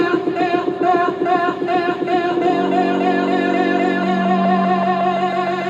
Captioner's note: voice repeats and accelerates